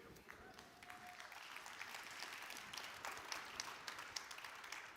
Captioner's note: audience applauds